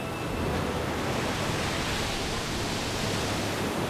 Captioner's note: waves roaring